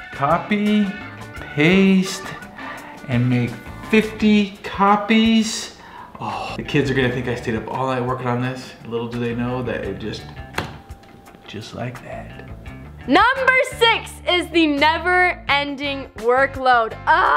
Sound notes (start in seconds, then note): 10.7 hits keyboard